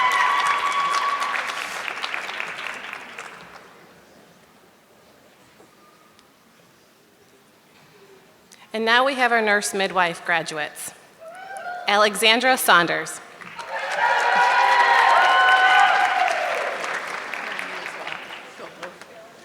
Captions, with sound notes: (audience clapping) And now we have our nurse midwife graduates, Alexandra Saunders. (audience clapping)